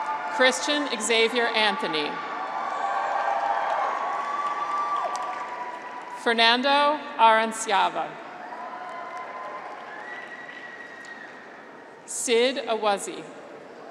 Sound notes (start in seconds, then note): 2.6 graduates cheer; 8.2 graduates cheer